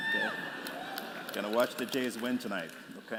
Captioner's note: applause